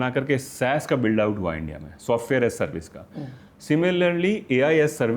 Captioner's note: sound of clearing throat